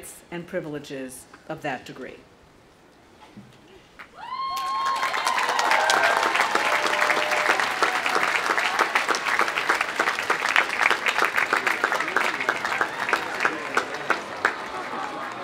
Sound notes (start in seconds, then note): 4.2 audience applauding; 4.2 audience cheering; 12.1 people chattering